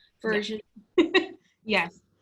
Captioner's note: laugh